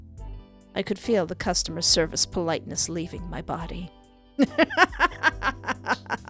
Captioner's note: laughter